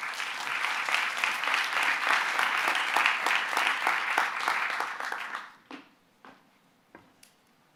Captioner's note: applause